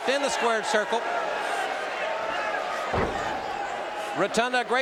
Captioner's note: audience cheering